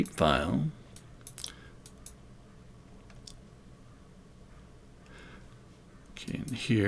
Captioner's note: silence